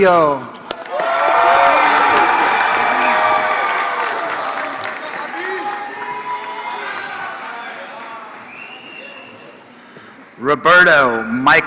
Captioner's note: applause